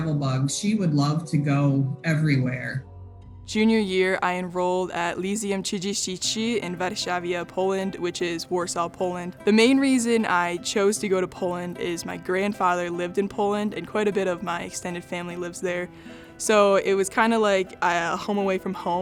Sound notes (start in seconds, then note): 5.8 murmurs